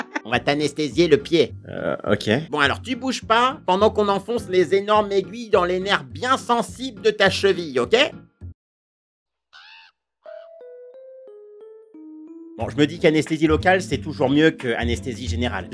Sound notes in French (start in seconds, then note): 9.5 Cri de corbeau